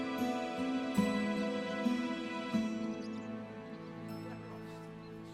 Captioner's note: distant chatter